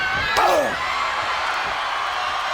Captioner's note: crowd cheering; Scott groans